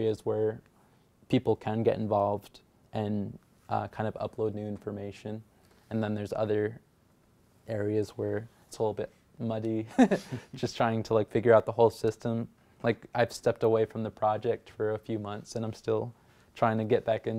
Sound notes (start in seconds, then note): 9.9 laughing